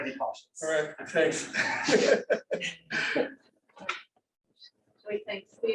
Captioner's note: laughter